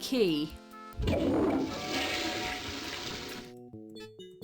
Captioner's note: toilet flushes